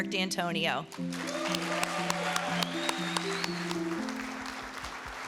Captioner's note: crowd cheering